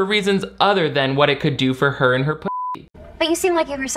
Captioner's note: beep